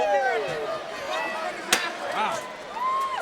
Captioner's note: audience chattering